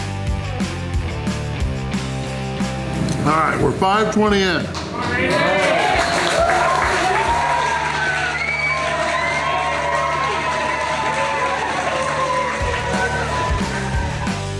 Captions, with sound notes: Alright, we're 5:20 in. (Crowd clapping and cheering)